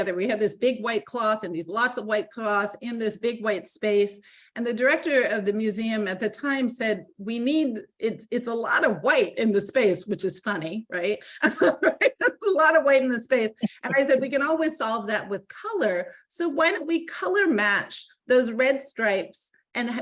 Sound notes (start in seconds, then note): 13.6 laughing